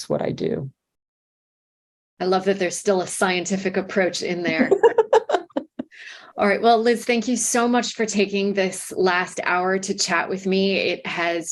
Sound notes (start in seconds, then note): 4.4 laughter